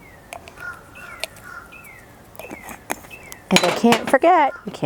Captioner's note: birds chirping